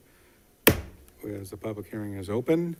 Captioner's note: gavel thuds